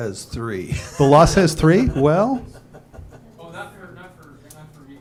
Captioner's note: laughter